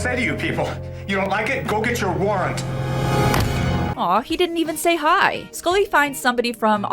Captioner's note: slam